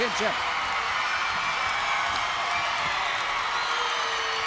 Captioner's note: crowd cheers